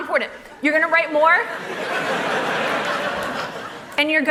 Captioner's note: laughter